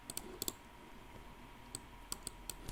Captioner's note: computer mouse clicking